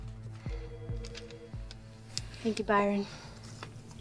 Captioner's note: telephone ringing